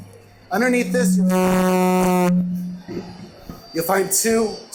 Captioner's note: intense distortion